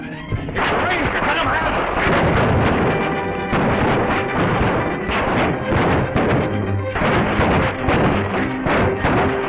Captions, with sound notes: It's the police. Let 'em have it. [gunfire]